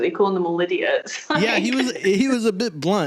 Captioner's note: laughs